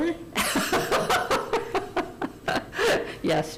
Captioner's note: laughter